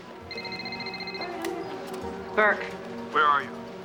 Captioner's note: phone ringing